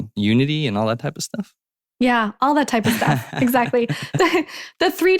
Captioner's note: laughing